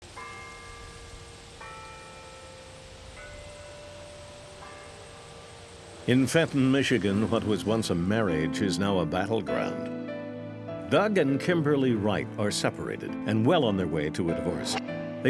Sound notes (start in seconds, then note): 2.2 church bells ringing